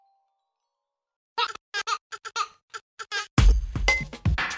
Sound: children giggling; hip hop music

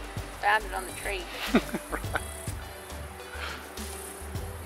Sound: laughs

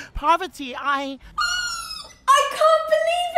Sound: Parvati screams in delight

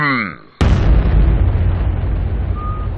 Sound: earthquake; whistling

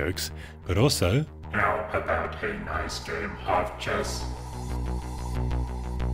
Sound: electronic Voice

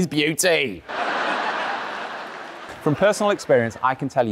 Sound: audience laughing

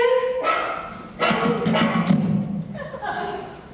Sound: barking

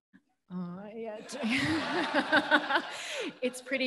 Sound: laughs; audience laughing

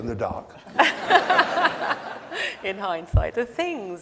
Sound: audience laughs

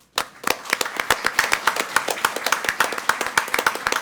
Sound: all applaud

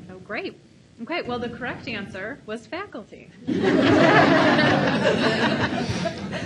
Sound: audience laughs

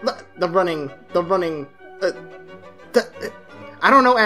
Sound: stammers

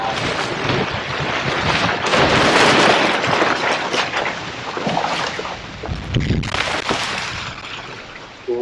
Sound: tree crashing

